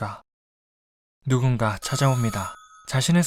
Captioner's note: ding-dong